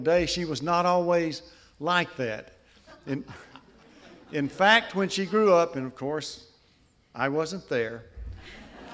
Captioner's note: laughter